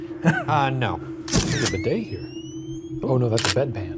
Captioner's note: camera clicks